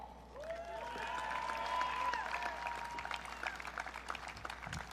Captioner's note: audience cheering